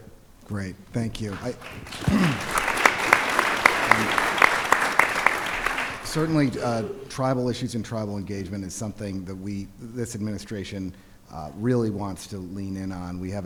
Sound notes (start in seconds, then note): 5.1 applause